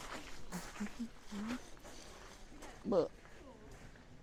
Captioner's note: hums